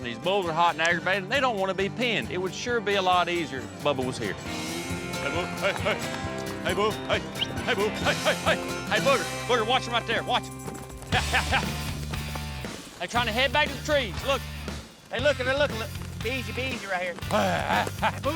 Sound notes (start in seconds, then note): 6.6 whistles